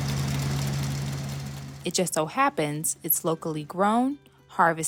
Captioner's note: tractor whirring